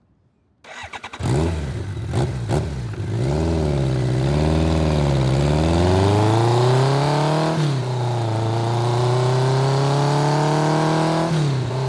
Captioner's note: engine revving